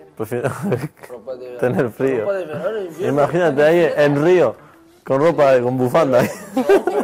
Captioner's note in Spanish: risas